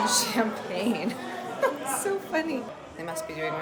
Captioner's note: giggling